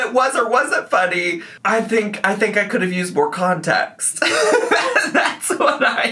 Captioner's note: laughs